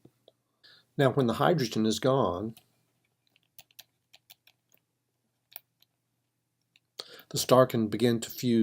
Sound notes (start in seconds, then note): 3.3 typing